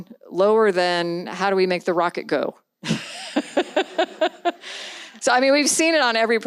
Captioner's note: laughs